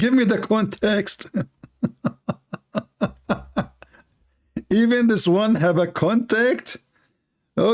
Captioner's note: Ketawa